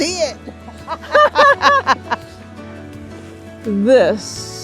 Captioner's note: both laugh